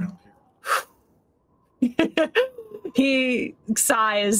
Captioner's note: Deborah blows